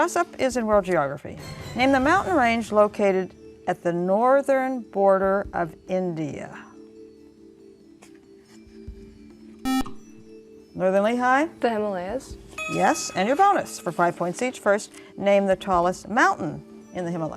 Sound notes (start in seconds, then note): 8.1 buzzer